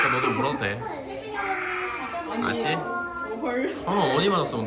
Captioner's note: is heard crying